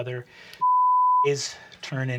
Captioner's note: beeping